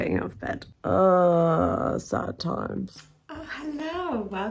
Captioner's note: groans